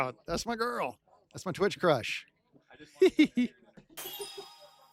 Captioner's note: giggles